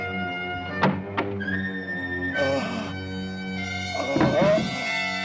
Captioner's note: ghoul groaning